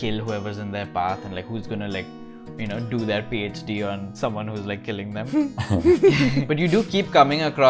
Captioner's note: laughter